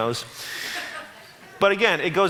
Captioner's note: audience laughs